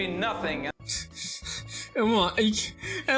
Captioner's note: chuckles